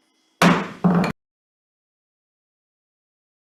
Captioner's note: gavel taps